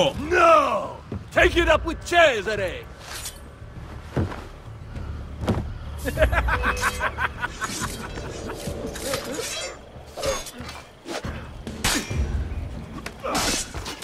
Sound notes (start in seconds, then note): 6.0 slave trader laughs; 8.6 hidden blade stabbing sound; 11.5 fighting sounds